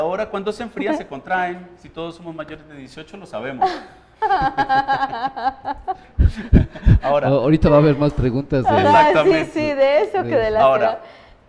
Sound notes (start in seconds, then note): 4.2 laughs